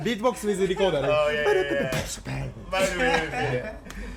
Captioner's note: beatbox